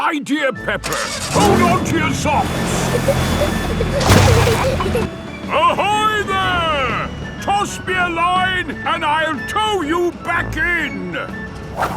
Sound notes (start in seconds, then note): 2.2 peppa and george giggling